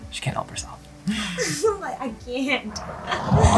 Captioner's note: laughing